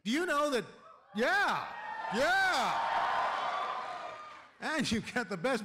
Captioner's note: cheering